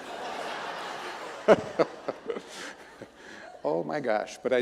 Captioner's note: audience laughing